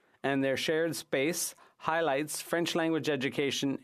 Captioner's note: french